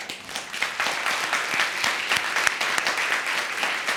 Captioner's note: audience clapping